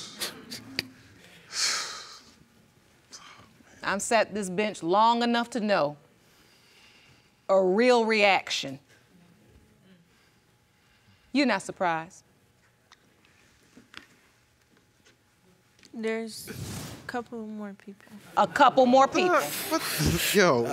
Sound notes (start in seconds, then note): 0.2 audience murmuring; 1.4 exhales